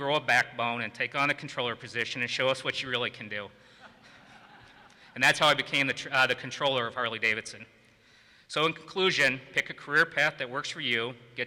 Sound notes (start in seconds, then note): 3.8 audience laughs